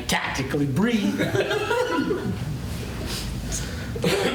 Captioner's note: laughter